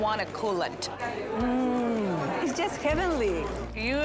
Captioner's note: hums